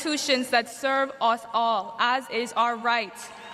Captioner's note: cheers and applause